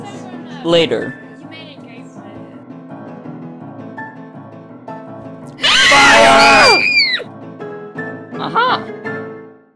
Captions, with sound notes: Later... AHH! FIRE! *gasping and screaming* Aha!